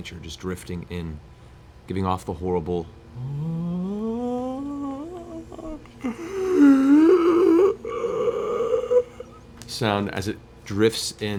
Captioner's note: raspy groan